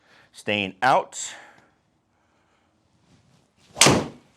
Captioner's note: ball thuds